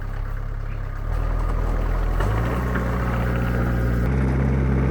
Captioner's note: engine revving